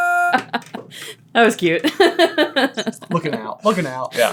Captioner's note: laughing